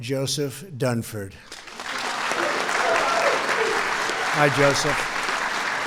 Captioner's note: applause